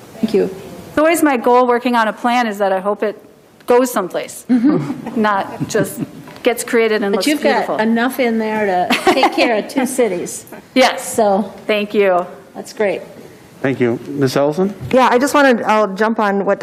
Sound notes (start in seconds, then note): 4.7 crowd laughing; 8.8 chuckles